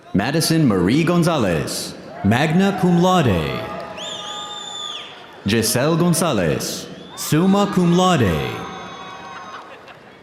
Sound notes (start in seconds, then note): 2.4 audience applauding; 3.7 audience cheering